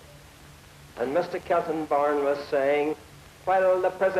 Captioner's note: imitating his voice